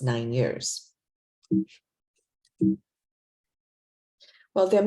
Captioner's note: computer beeps